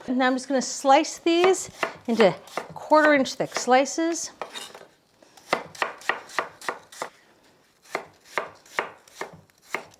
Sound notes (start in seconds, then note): 5.7 knife thumping